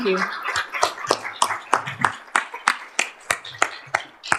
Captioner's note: applause